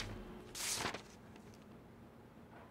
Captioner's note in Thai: เสียงกระดาษ